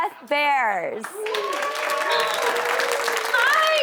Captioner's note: applause